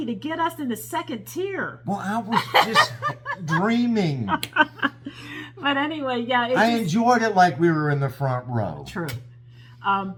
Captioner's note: laugh